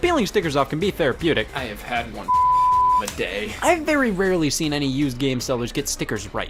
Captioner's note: beep